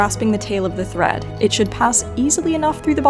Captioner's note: bobbin rattles